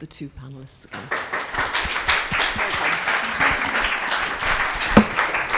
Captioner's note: participants clapping